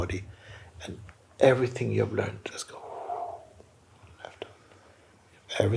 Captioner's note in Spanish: exhalación profunda